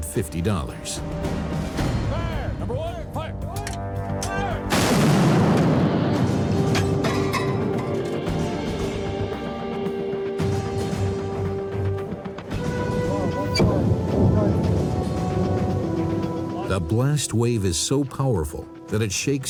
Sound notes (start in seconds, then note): 4.7 tank fire sound; 13.7 explosion